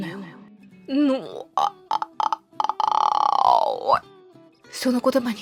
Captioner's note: SCREAM part2